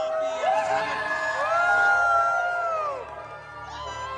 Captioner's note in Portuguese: gritos